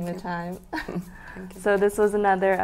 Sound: laughs

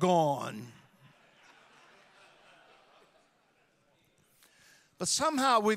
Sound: audience laughing

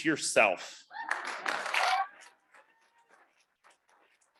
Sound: audience clapping

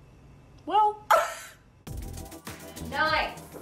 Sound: laughs

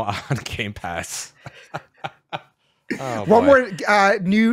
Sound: laughs

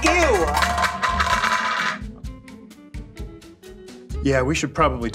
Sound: plate clatters

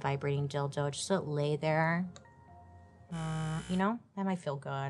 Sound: imitates vibrating

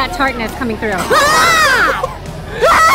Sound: growling

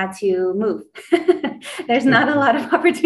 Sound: laughs

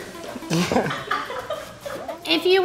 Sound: laughs nervously; filming crew giggling

